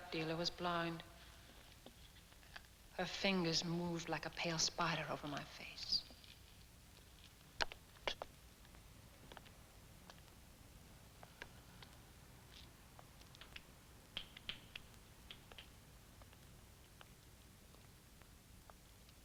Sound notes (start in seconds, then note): none